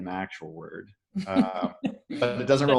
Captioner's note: laughing